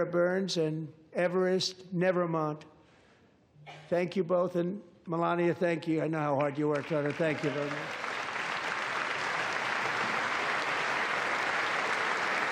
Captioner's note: cheers and applause